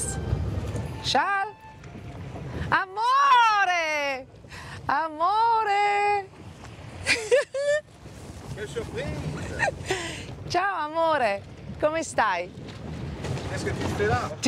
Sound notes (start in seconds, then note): 7.1 laughs; 10.3 in Italian